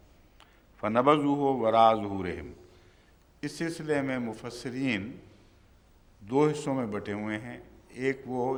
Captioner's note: Arabic